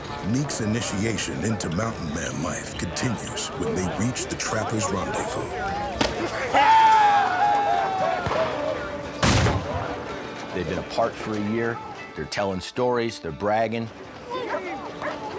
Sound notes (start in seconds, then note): 5.9 ax striking; 6.2 men cheering; 9.0 fires rifle